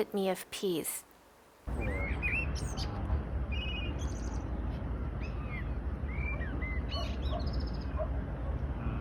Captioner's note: birds chirping and dogs barking from a distance